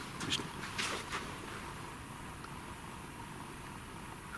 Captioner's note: quiet clattering